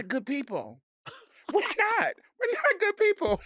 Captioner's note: Delta laughing